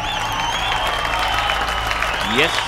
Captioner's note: All clapping